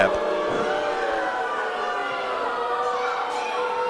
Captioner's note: audience booing